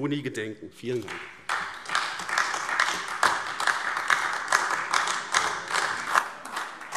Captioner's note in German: Beifall AfD